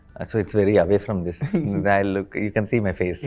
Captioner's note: laughs